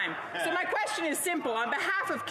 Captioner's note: yelling